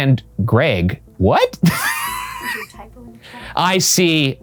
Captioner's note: laughs